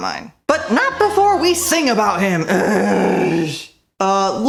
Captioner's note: groan